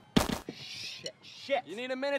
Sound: booming; ripping

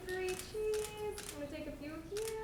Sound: camera clicks

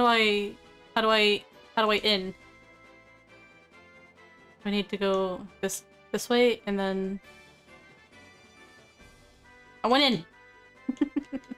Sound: giggles

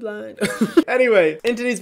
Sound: chuckles

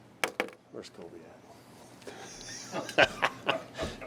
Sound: laughs

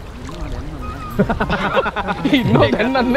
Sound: laughing

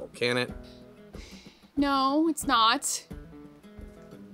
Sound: sigh

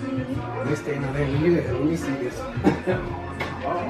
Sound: murmurs; chuckles

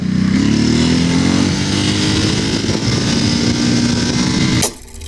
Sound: engine revs; mechanism whirs

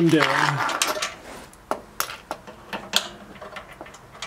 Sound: ratchet noise and cars passing

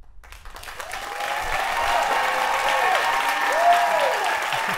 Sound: cheers and applause

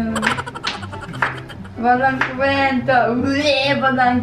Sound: pukes

